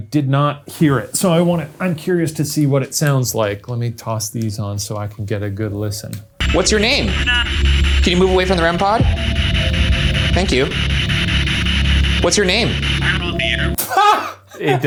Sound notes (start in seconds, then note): 8.0 disembodied voice faintly speaking; 10.2 machine hissing; 11.5 brooding music; 13.4 disembodied Voice